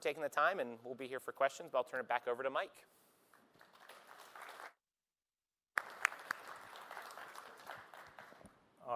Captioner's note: applause